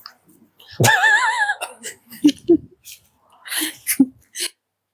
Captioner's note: laughter